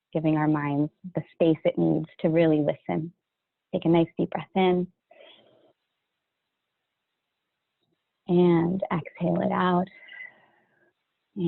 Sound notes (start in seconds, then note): 5.1 inhales deeply; 10.0 exhales sharply